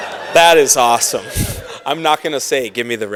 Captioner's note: laughing